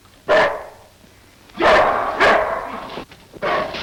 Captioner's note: Devil barks